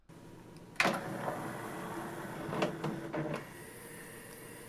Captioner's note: disc tray creaks in